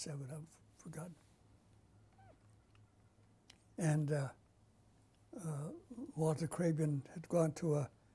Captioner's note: pauses for 3 seconds